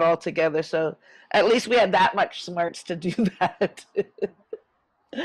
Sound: laughs

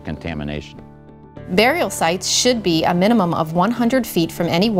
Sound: voiceover

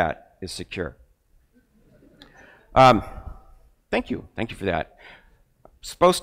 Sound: crowd laughing

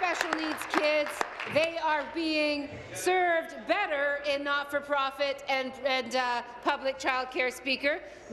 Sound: applause

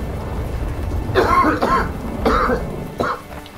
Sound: coughs

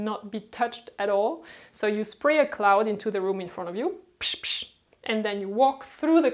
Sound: spritzing

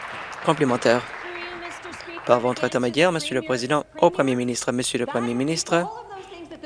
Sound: applause

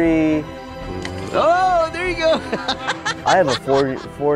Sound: laughs

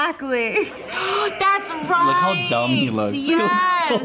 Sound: gasps

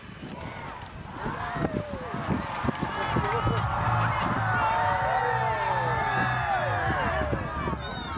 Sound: people cheering

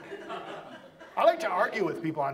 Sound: audience laughs

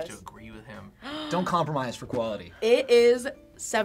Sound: React gasps

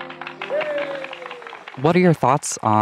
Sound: crowd cheering

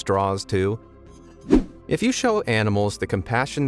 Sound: video whooshing

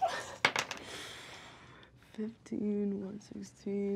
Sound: dice clack

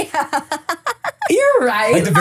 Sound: laughing

